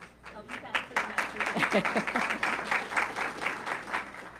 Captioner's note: audience clapping